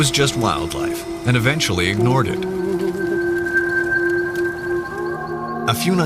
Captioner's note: man humming